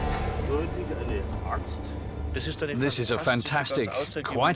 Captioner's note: speaking German